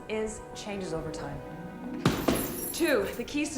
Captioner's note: fists thumping